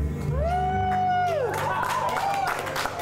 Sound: crowd applauding; crowd cheering

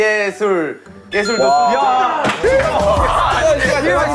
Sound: ding dong

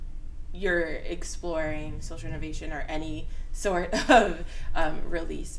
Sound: laughs

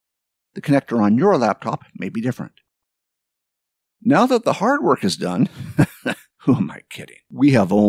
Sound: laugh

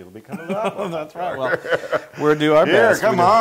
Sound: laugh

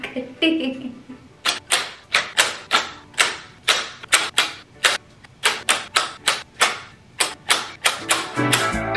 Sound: scissors cutting sound

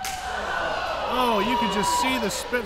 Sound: crowd yelling

